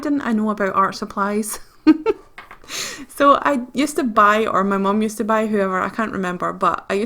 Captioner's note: laughs